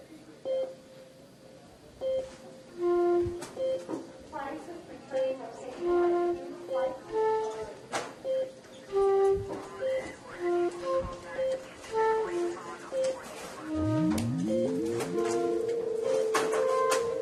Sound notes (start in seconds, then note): 2.8 flute music; 9.5 radio chattering; 12.0 flute music; 12.0 saxophone music